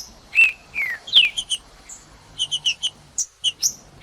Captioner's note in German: trinca ferro cantando